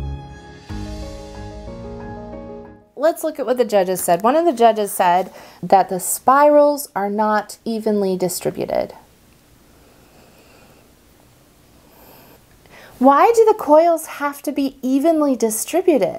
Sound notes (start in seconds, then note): none